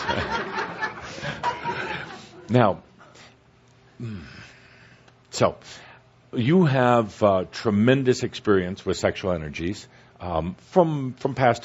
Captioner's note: laughter